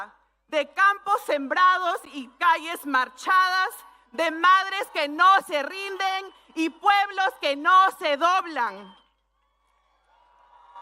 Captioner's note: speaking spanish